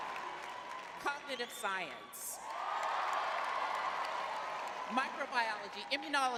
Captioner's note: cheering